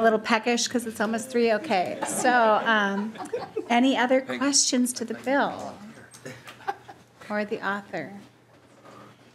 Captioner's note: laughing